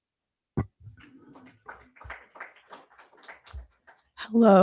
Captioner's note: crowd applauding